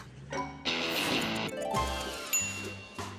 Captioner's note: timer ticks and dings